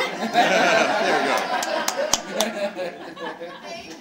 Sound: audience laughs

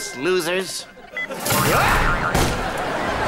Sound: shrieking

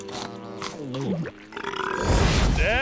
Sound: burping

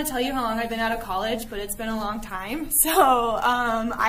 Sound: giggling

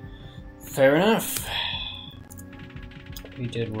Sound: sigh

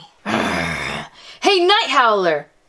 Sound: growls

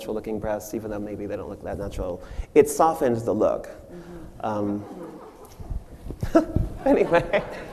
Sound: audience laughs

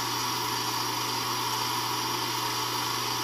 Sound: vacuum

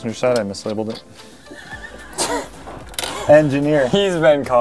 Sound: laughing

